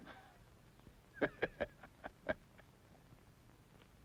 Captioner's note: laughs